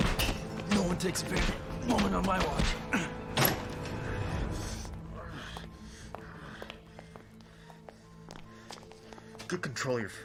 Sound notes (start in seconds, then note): 2.1 grunting, panting; 5.1 soft, tense music